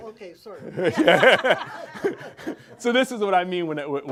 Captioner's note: laughs